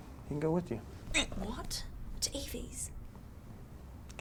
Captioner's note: Jack hiccups